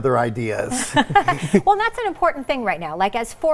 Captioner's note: laughs